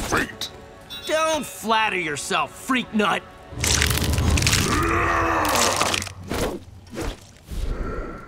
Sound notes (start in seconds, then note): 4.6 grunting